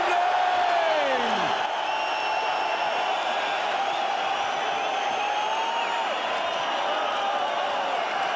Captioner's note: cheering